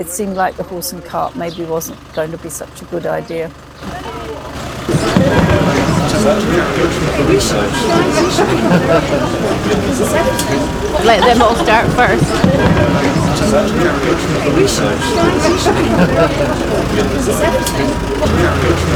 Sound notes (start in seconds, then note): 3.7 clock chiming midday; 3.7 general chatter